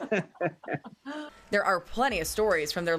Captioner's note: laughter